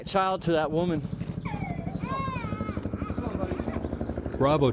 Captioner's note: helicopter flying overhead and child crying; voiceover